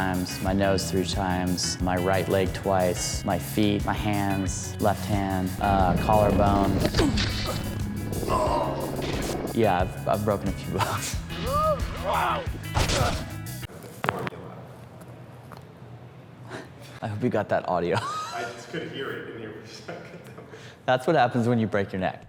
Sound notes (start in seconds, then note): 7.9 painful cries; 12.7 cracking neck sounds; 17.9 chuckles